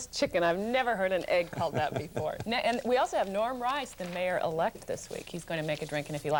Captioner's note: chuckles